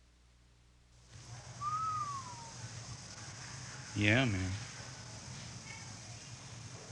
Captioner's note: volunteer Whistles, then Speaks